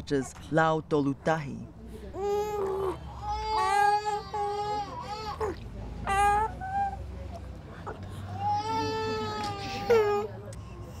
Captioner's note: babies Crying